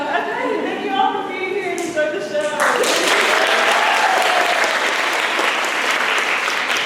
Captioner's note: applause